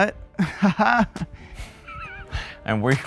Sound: fake laughing

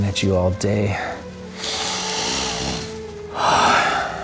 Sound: sexy snort; sigh

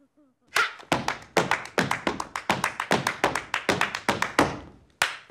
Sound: cooing; laughing; stomping and clapping

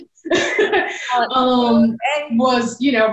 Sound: belly laughing

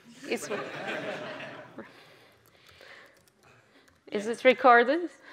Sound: audience laughs

